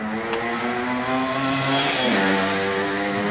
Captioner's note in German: Motorradmotor